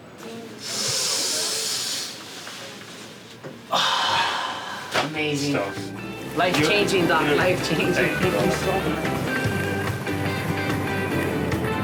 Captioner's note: deep breath